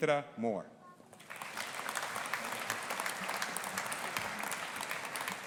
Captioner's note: audience applauding